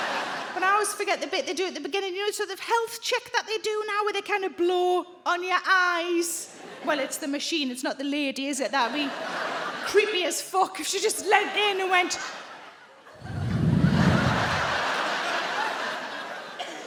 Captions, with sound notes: But I always forget the bit they do it at the beginning. You know, sort of health check that they do now where they kinda blow on your eyes. Well, it's the machine. It's not the lady, is it? That would be creepy as fuck if she just leaned in and went. (blowing) (audience laughing)